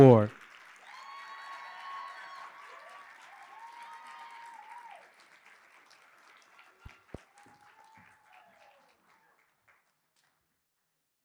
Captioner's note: applause